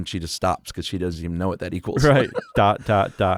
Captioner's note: chuckles